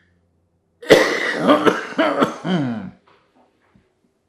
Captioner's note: coughing